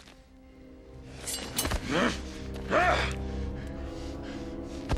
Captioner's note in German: Grunzen